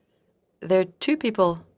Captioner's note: speaking French